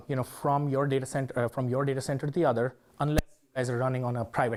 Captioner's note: microphone hitch